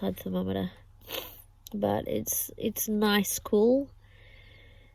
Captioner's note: sniffs